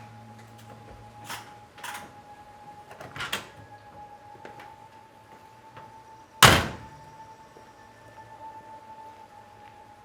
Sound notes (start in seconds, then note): 3.3 door opens; 6.4 door slams